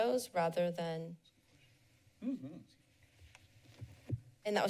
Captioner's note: pause